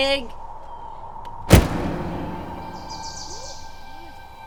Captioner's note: door slams; ominous music